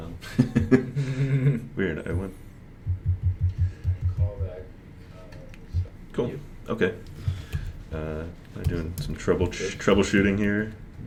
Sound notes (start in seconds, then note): 0.2 laughs